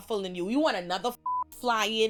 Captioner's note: beep